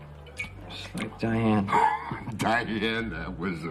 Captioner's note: laughs